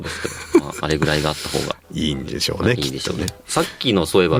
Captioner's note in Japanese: 笑い